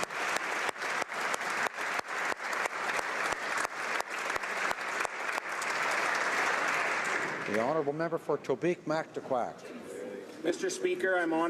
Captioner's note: applause